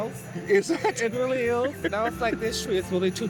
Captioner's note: laughs